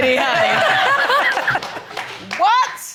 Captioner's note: all laughing